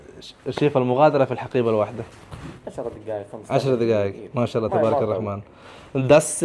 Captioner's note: Arabic